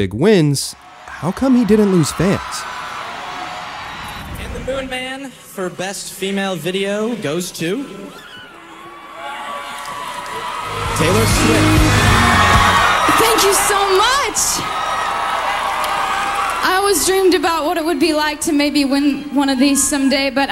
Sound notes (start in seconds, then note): 2.9 crowd Cheering; 11.4 audience Applauds; 14.9 audience Applauds